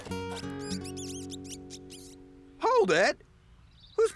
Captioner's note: engine Running; mice Squeaking